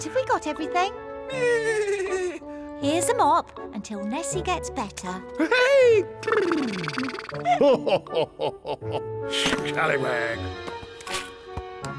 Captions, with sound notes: - Have we got everything? - Neigh! Here's a mop, until Nessie gets better. Yay! (nickers) (laughs) Scallywag.